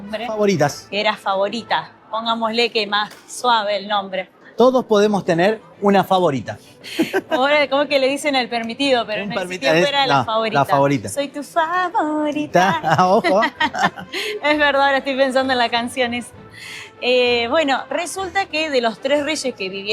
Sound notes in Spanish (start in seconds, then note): 12.7 risas